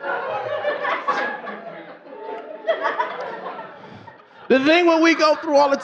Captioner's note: laughing; audience laughing